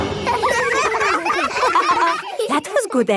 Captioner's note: all giggling